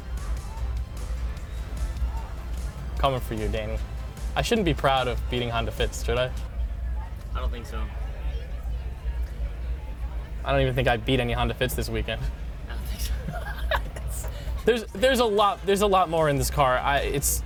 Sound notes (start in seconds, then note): 0.0 bright music; 13.0 both laughing